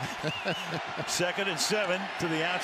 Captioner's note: laughter